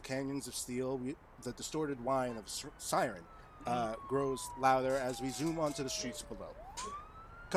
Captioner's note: siren effect